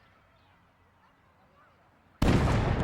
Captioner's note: birds chirping; people chattering; exploding